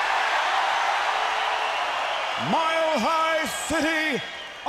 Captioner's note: crowd cheering